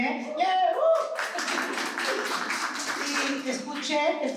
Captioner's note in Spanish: aplauso